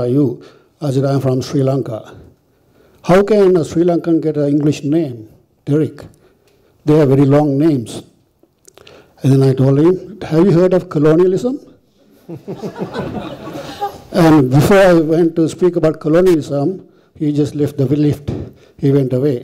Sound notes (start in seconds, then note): 12.1 audience laughter